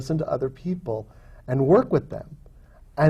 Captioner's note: none